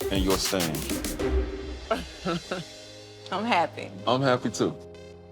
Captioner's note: laughs